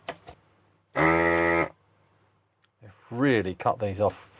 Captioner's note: buzzing